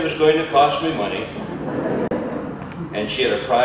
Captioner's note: audience laughter